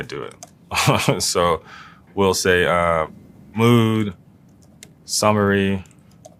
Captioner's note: laugh